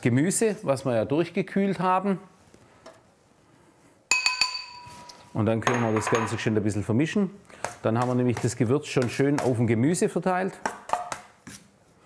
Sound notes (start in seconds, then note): 4.2 the dishes jingle